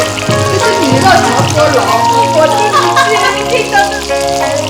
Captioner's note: laughing, can’t understand what sis is saying